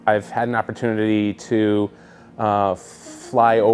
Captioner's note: laughs